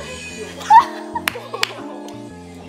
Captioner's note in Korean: 꺄르르